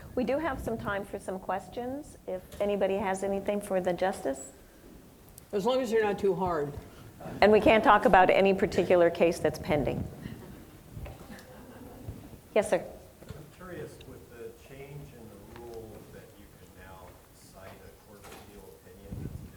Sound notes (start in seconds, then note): 7.2 audience laughing